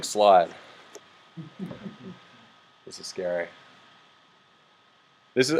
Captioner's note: some laughs